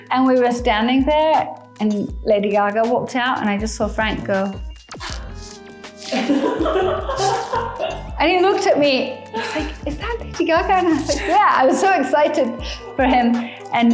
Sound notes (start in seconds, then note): 5.9 speaker 2 laughing